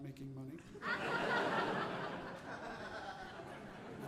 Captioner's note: audience laughing